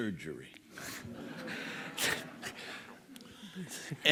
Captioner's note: lauhter